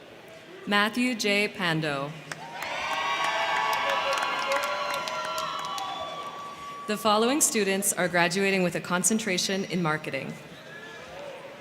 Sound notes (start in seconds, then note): 2.2 crowd clapping; 2.2 crowd cheering